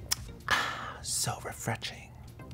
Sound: smacks lips

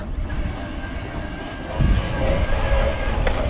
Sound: whirring

